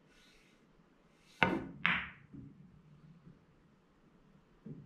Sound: pool balls tapping

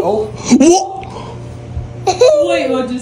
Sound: gasps; giggles

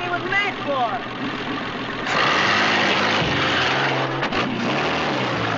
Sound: car engine running

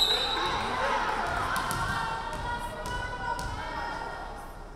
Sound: referee whistling

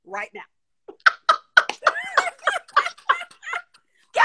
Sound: laughing

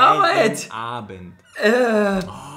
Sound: laughs

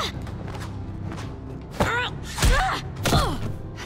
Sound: grunting

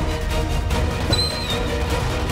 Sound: door creaks open

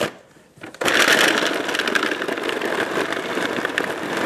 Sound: blender whirling

